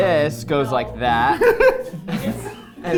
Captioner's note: people laughing; laughing